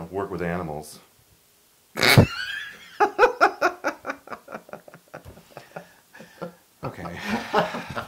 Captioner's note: laugh